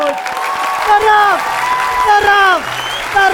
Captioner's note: applause and scream